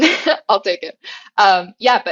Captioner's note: laugh